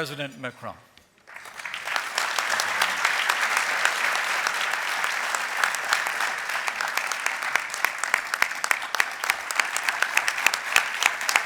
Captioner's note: applause